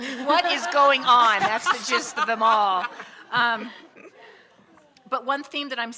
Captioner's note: audience laughing